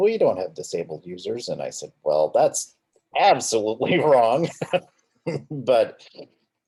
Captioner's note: laughing